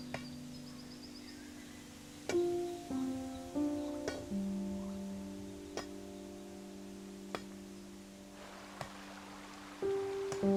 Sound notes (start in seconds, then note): 0.6 distant clanging